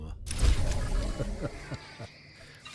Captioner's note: gunfire